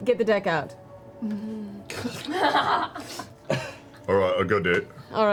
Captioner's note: all laugh